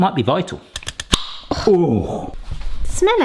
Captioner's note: jar opening